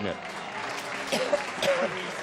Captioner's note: applause